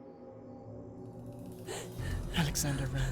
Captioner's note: Alexander sprinting and out of breath